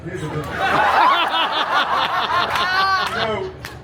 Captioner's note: guests laughing